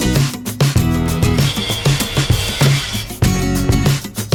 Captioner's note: circular Saw